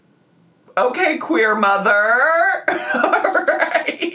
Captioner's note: laughs